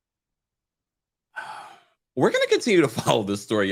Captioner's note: sighs